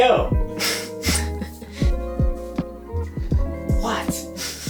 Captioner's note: laughs